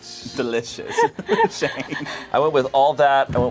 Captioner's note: laughs